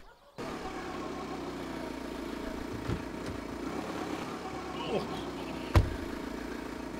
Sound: car engine running

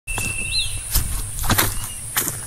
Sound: footsteps

